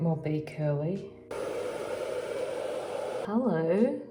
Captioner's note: hair dryer blowing